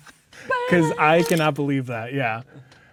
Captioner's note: laughing; camera shutter clicks